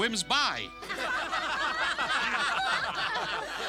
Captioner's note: all laughing